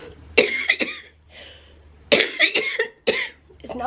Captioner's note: coughing